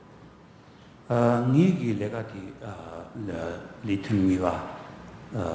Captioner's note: speaking tibetan